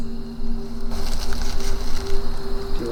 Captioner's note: rustling leaves